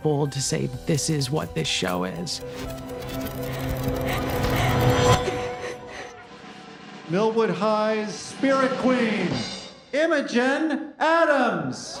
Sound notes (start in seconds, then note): 3.1 hyperventilating; 8.8 drumroll